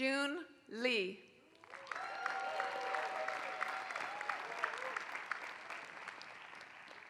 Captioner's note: applause